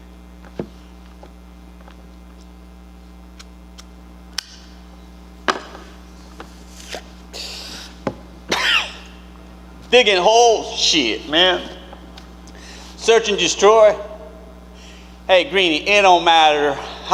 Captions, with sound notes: [lighter flicking] [lighter thuds] [actor inhales] [actor coughs] Digging holes? Shit, man. Search and destroy. Hey, greeny, it don't matter